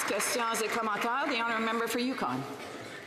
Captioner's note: some Applause